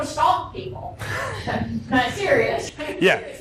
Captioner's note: laughter